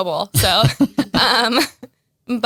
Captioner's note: both laugh